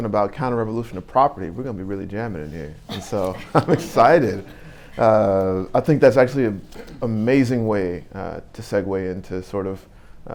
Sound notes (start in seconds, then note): 2.8 audience laughing